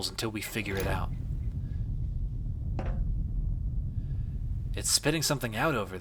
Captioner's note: low rumbling ambience